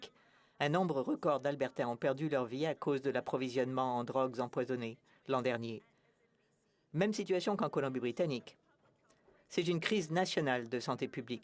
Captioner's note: speaking French